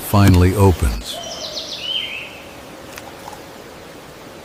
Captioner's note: woodpecker drumming